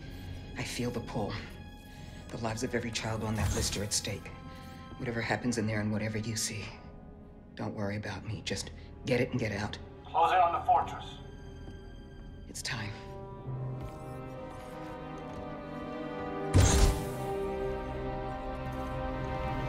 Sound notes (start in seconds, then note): 10.3 over intercom